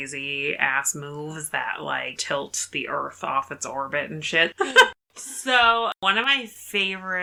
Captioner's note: laughs